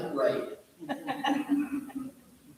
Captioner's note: off-screen laughter